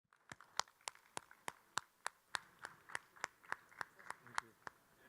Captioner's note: audience members clapping